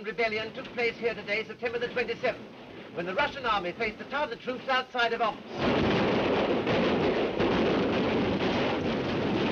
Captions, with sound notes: of the Siberian rebellion took place here today, September the 27th. When the Russian Army faced the Tartar troops outside of Omsk. (artillery firing)